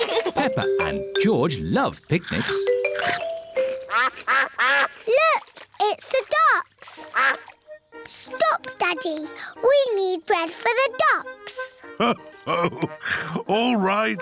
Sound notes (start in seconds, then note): 3.8 quacking